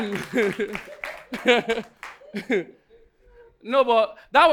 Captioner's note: audience laughing